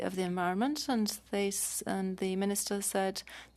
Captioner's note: speaking French